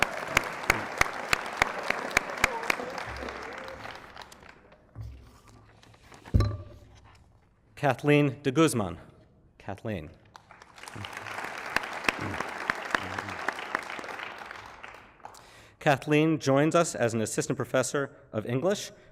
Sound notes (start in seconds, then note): 0.0 applause; 10.2 applause